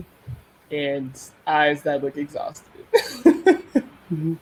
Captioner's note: laughs